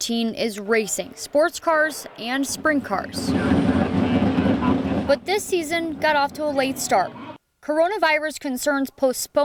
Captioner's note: car sounds